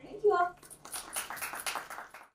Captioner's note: audience applauding